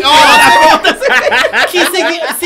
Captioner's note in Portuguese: risos